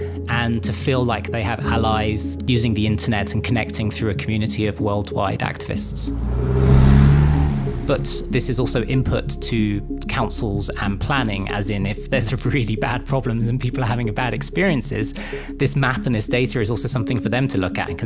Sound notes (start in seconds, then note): 5.7 engine roars